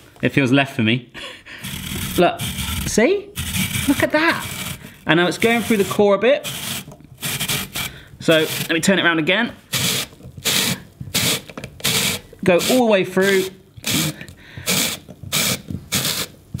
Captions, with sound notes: It feels left for me. Look. See? Look at that. And now it's going through the core a bit, so let me turn it round again. (grinding) Go all the way through. (grinding)